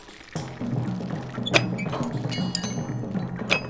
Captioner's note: machinery clangs